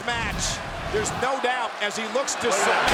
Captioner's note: graphics whooshing